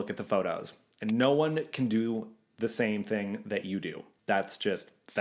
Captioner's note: clicking